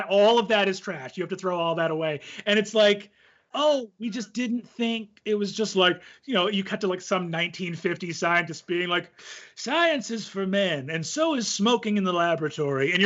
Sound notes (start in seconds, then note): 9.1 inhales